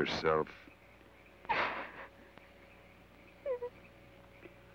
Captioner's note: Laura sobs